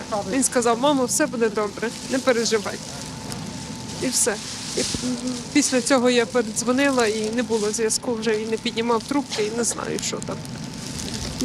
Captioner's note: speaking Alternate Language